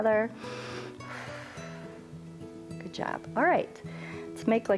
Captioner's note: inhales and exhales